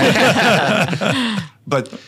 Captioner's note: all laughing